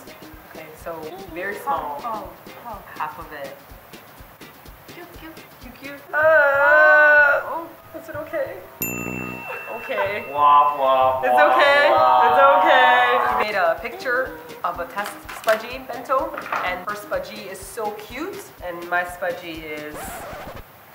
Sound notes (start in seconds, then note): 8.7 failure horn sound; 19.3 track stopping sound